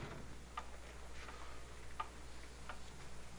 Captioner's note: clock ticking